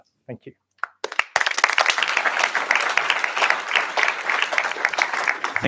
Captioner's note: applause